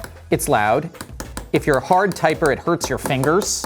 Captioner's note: keyboard keys banging